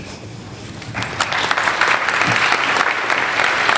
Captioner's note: applauding